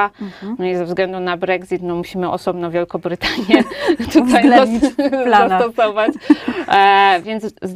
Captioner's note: laughs